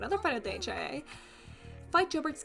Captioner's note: big breath